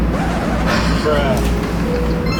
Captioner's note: record scratch; bruh sound